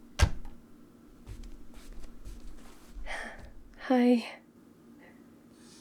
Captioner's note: footsteps; breathless